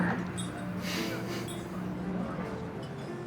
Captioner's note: laughs softly